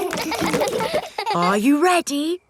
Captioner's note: kids laughing